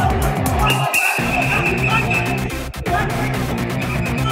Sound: whistle shrills

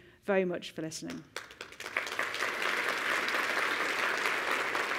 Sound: applause

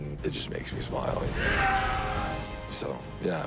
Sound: whooping

